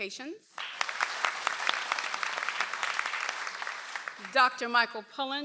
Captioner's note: audience applauds